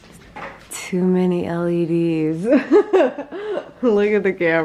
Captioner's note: laughs